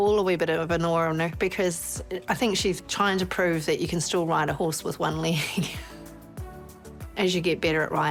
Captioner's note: chuckles